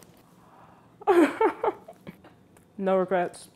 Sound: laughs

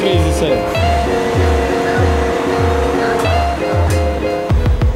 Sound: city sound

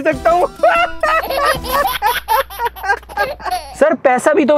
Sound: laughing

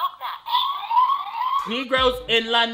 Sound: siren wailing

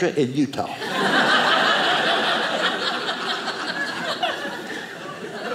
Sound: audience laughing

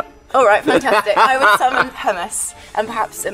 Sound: Ben laughs

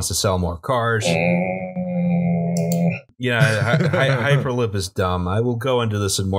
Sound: anger noise

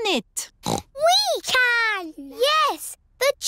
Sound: snorts

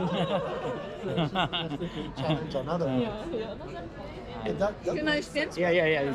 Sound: laughter

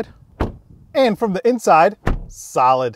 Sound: door thuds

